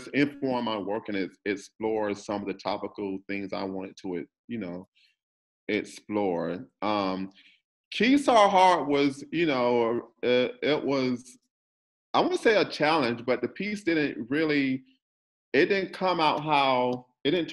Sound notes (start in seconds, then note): none